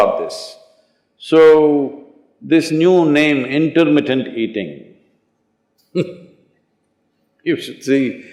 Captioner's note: laughs